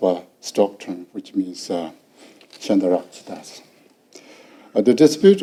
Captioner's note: speaking foreign language